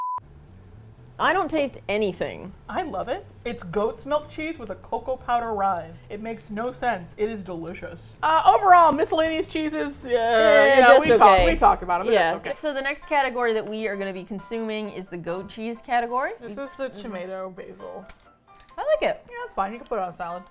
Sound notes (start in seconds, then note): 9.8 stammering thinking sounds